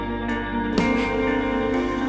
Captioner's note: Max scoffs